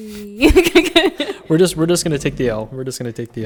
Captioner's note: laughing